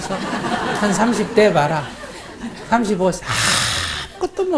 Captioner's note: audience Laughter